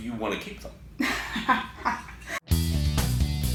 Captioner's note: laughing